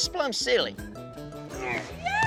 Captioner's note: groans